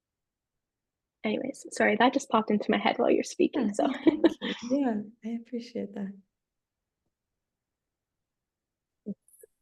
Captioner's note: chuckles